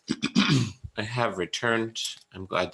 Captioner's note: clears throat